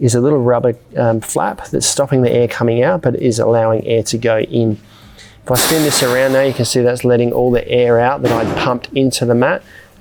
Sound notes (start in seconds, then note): 5.5 air whooshing